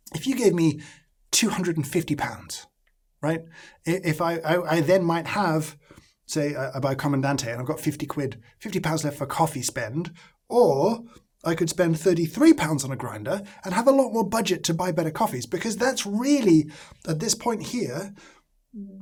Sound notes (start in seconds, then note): none